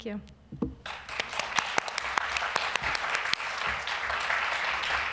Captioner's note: applause